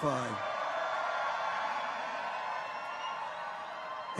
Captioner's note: people cheer